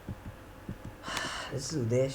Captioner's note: deep sigh